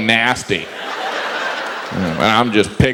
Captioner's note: audience laughs